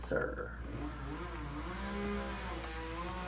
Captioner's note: electric/gas saw